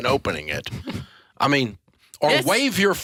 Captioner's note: laughing